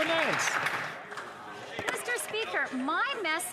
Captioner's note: some Applause